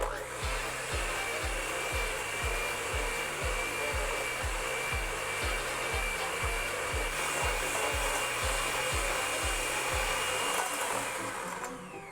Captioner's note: whirling electric blender sound